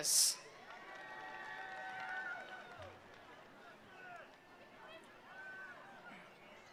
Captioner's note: attendees cheering; attendees applauding